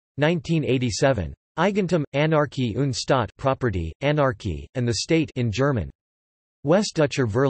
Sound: in German

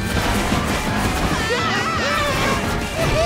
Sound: screaming

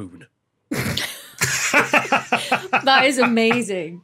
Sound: laughing

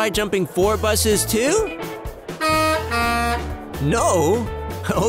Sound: HONK, honk

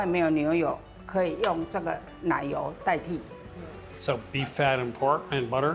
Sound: speaking local dialect

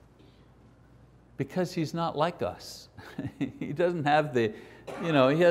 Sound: chuckles

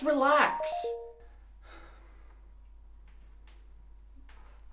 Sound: Kyle's phone ringing

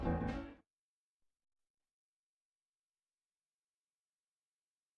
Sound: silence

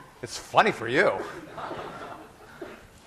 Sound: class laughing

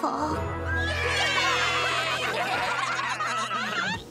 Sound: cheering

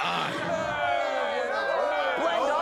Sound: cheering

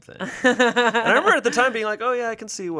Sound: laughs

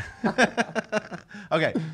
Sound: laughing

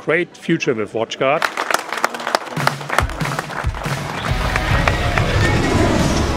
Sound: applause

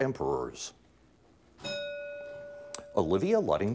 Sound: bell ringing

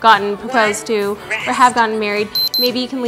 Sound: beeps

